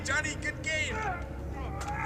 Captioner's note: man grunting; men yelling